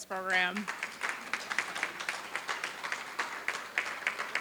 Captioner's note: applause